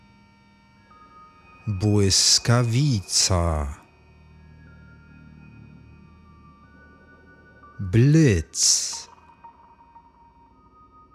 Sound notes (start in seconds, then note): 9.6 german